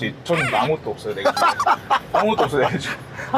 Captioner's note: ㅎㅎㅎㅎㅎㅎㅎ